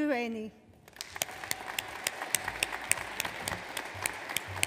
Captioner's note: audience applauds